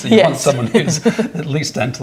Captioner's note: laughing